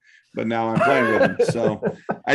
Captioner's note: laughter